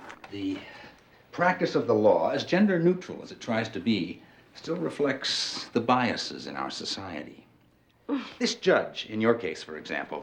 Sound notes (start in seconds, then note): 8.0 sighs